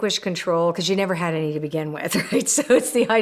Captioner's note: laughs